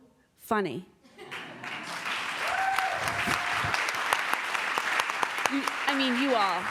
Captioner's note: applause